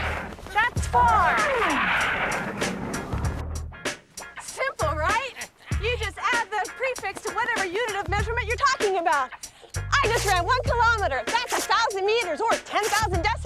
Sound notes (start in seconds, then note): 3.4 panting